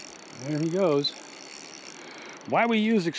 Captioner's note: reel spinning